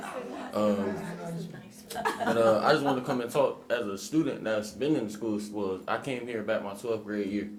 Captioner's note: laughter